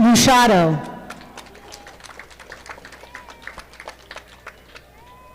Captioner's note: audience clapping